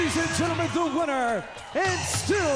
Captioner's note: crowd cheering